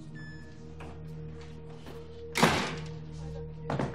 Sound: door slams shut

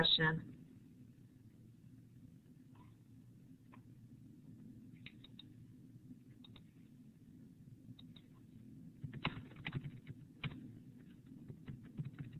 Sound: silence

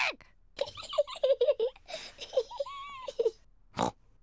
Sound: giggles

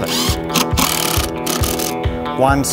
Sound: drill

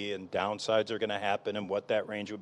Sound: none

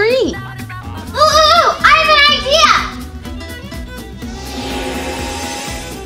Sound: magic trill

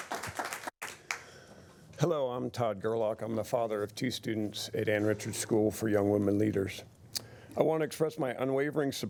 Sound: applause

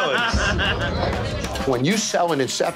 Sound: patron laughing

